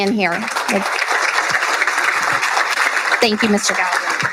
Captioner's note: applauding